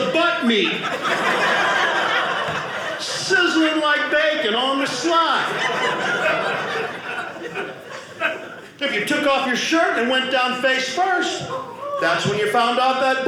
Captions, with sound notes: meat, sizzling like bacon on the slide. (audience laughing) If you took off your shirt and went down face first, that's when you found out that boys,